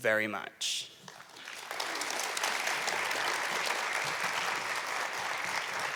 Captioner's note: applause